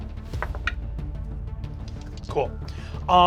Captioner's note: rolls dice